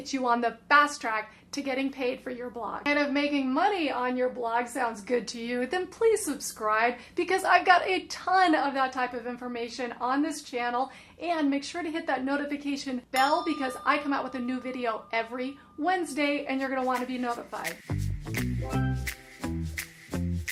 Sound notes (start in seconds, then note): 13.2 bell rings; 18.0 light music